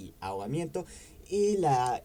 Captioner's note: breathes